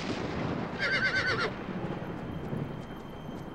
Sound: whinnying

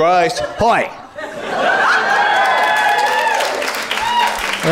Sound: cheering and applause

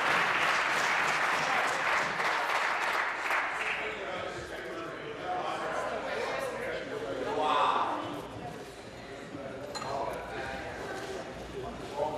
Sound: applause

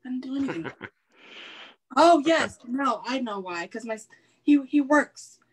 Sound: laughs

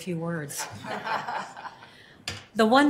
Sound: laughs

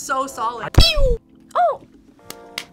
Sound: wrapper squeaks

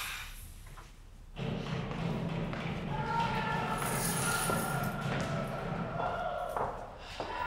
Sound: prisoners shouting, banging doors

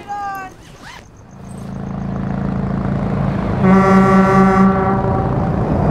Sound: sound of traffic and horns honking

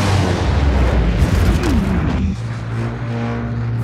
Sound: grunts

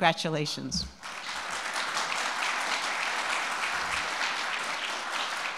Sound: audience applauding

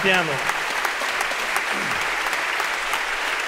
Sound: applause

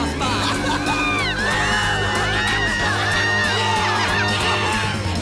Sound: people Scream

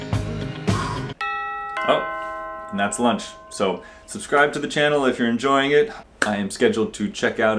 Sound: doorbell

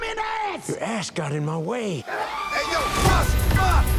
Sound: screaming; hip-hop continues

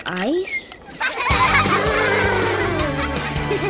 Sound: laughing

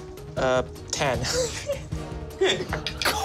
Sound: laughing

